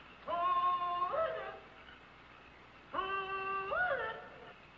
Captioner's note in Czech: Křik